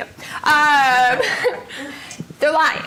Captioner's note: laughing